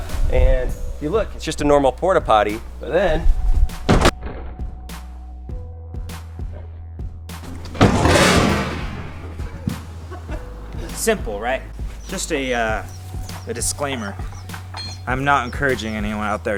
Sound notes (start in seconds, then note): 3.9 crash; 7.5 plastic breaking; 10.0 chuckle